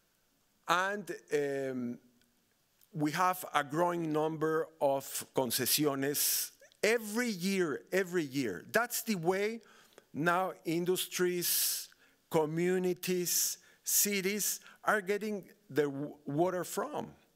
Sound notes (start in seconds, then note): 5.0 speaking Spanish